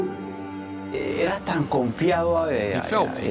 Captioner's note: Spanish spoken audio